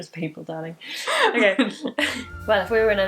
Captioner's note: laughing